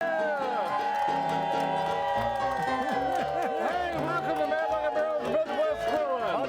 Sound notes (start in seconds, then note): 2.6 crowd cheers